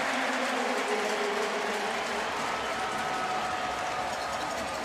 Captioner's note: crowd cheering